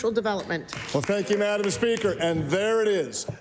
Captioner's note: some Applause